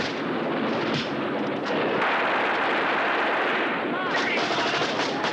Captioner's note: gunfire and shouting continue